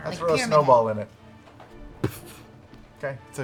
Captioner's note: impact